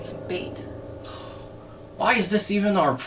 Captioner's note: James sighs